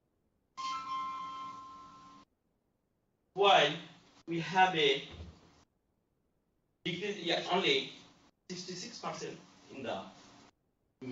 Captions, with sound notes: (phone ringing) ...while we have a-- because you are only 66 percent in the men.